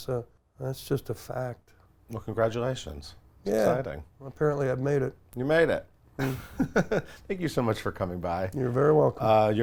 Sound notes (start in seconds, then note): 6.2 laughs